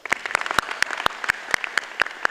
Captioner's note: applause